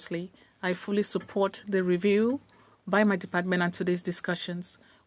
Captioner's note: speaking French